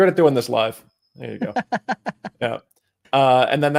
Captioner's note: laughter